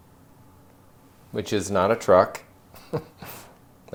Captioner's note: chuckles